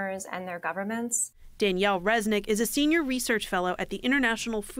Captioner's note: voice-over